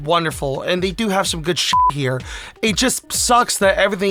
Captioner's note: beep